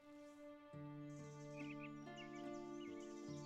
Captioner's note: birdsong